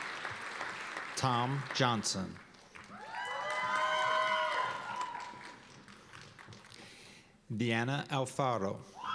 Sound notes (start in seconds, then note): 2.7 cheers and applause